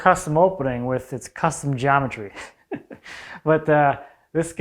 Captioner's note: laughs